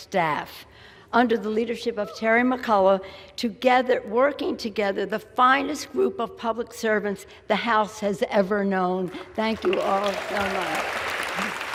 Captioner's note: applause